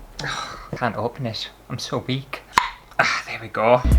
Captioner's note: pop!